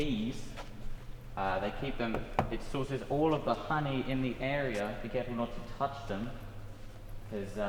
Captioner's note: knock Knock